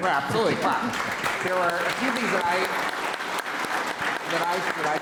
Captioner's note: audience applauding